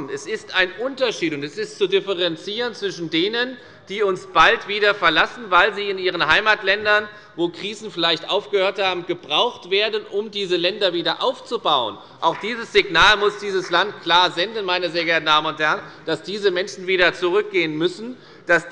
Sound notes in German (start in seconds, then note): 12.2 Beifall bei der FDP